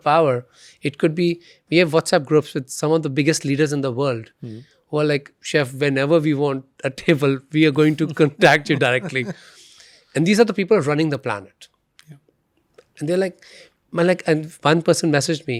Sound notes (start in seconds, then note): 7.8 chuckles